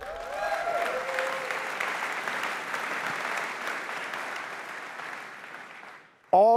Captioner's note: applause